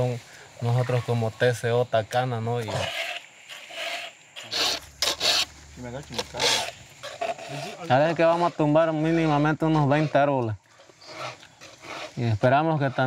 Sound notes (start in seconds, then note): 6.0 people chattering; 8.5 speaking in foreign language